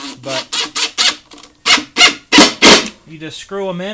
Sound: drill running

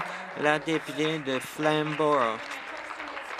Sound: applause

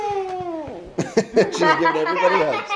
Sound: laughing

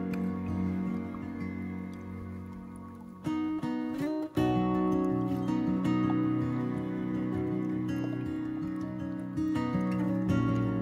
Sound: gentle stream sound

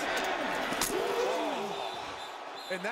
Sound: groaning

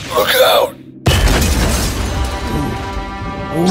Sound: explosion

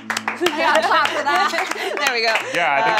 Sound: applauding

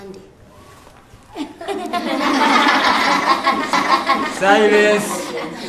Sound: laughter

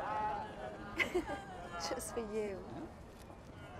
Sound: laughter; laughing

